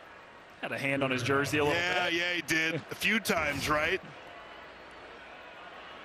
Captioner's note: laughter